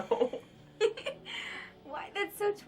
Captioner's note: Laura laughs; Lola laughs